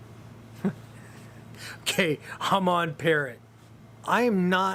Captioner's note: laughs